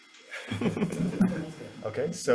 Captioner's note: people laughing